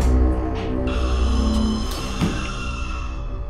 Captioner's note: Skinwalker screams in distance